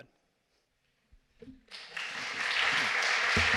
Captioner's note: applause